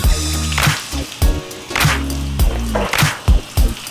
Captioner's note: water splashing